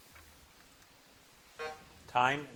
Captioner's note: buzzer buzzing